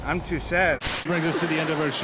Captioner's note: static